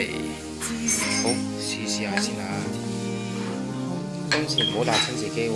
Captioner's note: eats